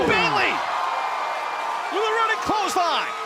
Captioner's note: cheers & applause